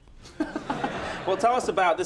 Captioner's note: laughter